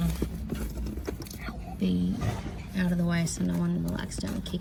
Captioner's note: quietly